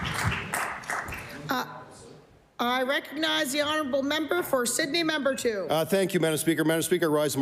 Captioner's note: applause